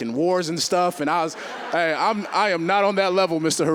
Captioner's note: audience laughing